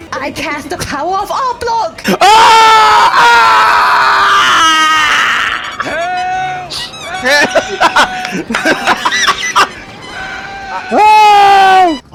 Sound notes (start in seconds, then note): 2.2 screaming as his passions and dreams disappear and nobody can save him